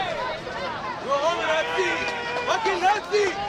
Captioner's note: crowd yelling